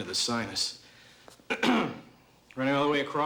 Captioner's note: clears throat